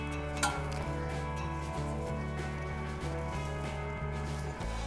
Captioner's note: grass rustling